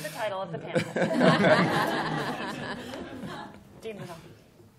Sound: laughter

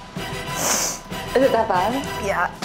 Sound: sniffs

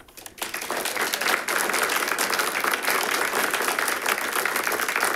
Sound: audience applauding

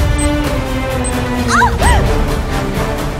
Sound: screams

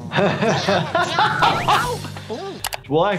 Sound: laughing

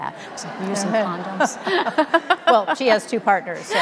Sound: audience laughing

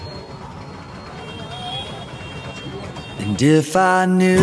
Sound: horn beeping

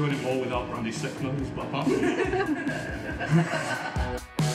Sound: laughter

